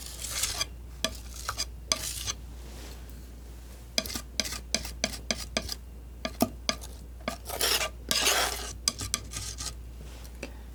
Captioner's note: scratching